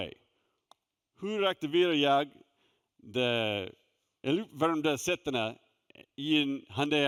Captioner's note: speaking Swedish